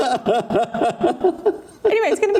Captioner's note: laughing